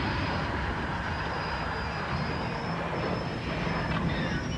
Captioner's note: screeching